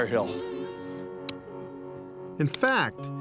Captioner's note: pick clinking